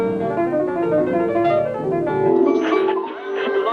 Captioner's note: tuning radio